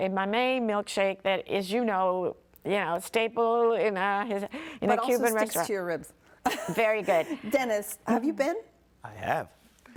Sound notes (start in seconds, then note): 6.5 participants laughing